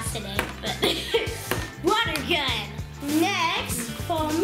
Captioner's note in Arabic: يضحك